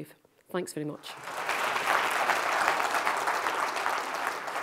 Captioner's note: audience clapping